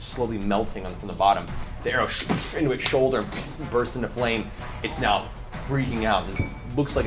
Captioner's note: impact sound